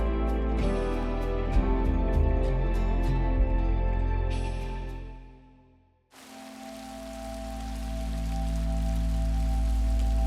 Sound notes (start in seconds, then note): 6.1 rain pitter-patters; 8.1 melancholic music